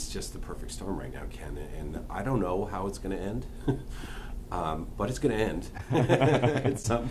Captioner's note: laughter